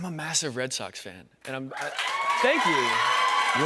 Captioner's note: cheers and applause